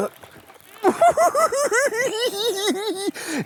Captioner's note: giggles